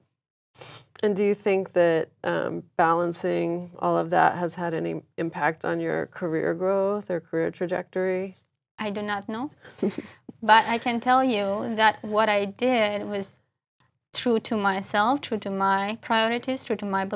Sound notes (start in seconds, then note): 9.7 laugh